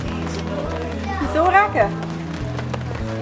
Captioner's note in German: auf Schweizerdeutsch